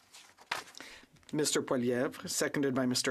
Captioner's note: speaking in French